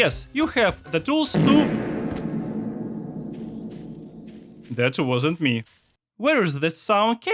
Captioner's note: ominous sound